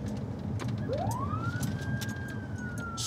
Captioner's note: siren